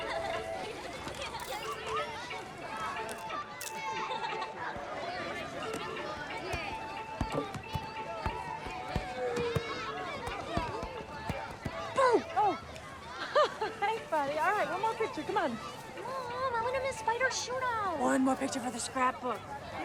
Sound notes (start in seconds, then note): 0.3 children chattering and laughing; 1.4 camera shutter clicks; 4.2 child laughs; 7.3 football thudding; 13.9 laughs